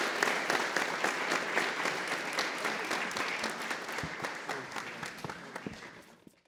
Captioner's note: applause